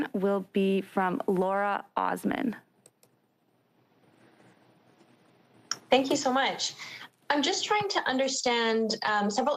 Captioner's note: speaking French